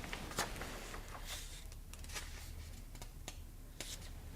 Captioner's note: pages flapping